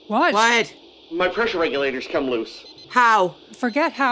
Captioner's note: beepbeepbeepbeep